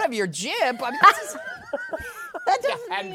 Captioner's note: laughter